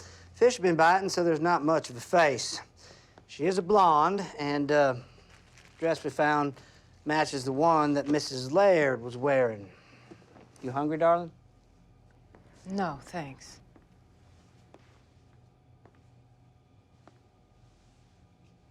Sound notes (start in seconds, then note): none